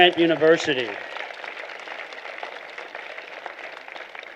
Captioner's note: applause